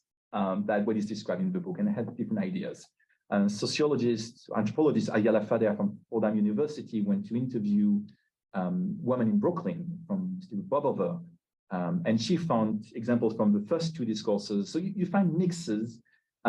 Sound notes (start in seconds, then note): 5.4 Hebrew